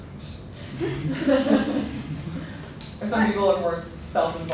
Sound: laughter

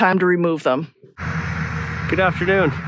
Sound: machine rumbling

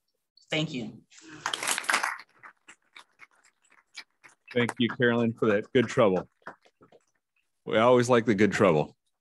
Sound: applause

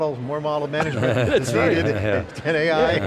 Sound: laughing

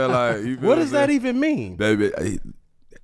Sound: Metta laughs

